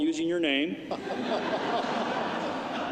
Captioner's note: laughter